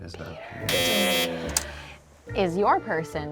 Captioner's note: buzzer buzzes